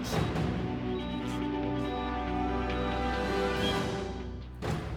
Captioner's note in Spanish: Sollozos